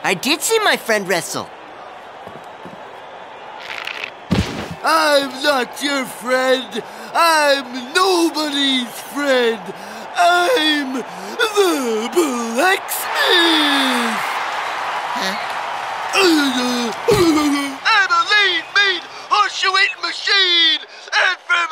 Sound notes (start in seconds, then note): 13.8 cheering; 16.1 grunting